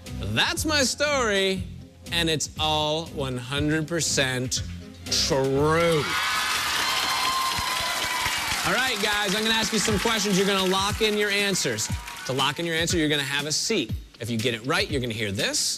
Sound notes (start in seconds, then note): 5.8 cheers and applause